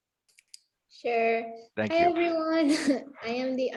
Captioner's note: chuckling